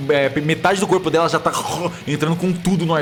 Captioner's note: gurgling